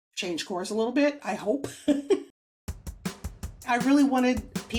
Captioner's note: laughs